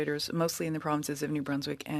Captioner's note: speaking french